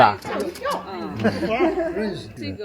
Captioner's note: nonverbal grunt as interjection